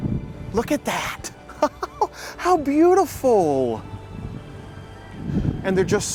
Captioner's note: laughing